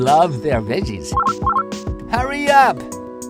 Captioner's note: phone rings